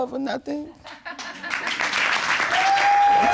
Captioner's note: audience laughs